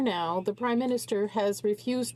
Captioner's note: speaking French